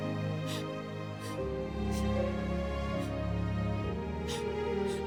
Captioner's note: Eliza sobbing